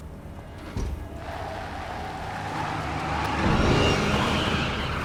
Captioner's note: door opens and shuts; tires screeching